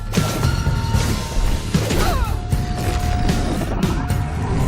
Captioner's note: Hazel grunting